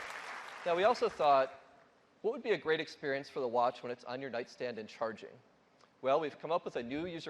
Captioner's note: applause